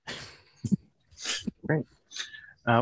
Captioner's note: laughs